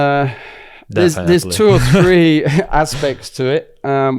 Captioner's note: laughs